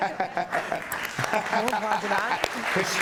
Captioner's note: audience applauding